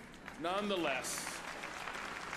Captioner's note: applause